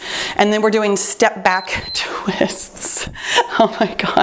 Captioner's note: timer beeps